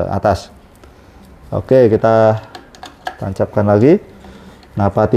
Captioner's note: damper noise